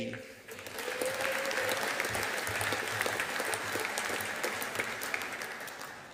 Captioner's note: audience applauding